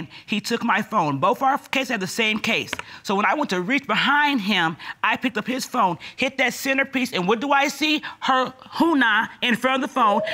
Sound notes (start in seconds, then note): none